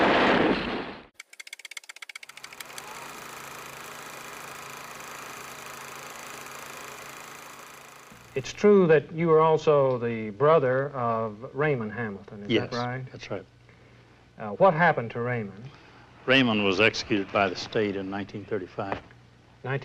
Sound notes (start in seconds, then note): 1.2 movie projector whirring